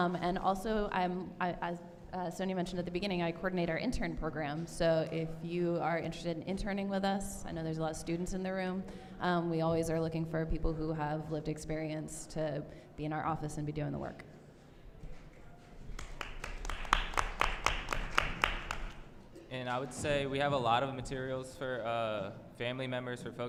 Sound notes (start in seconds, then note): 14.2 applause